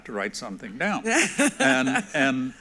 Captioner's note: laughs